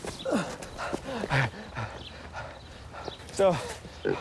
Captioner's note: panting